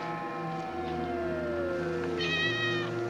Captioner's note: meows